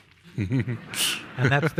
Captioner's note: people laughing